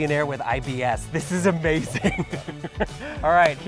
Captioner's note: chuckles